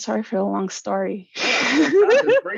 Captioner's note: laughs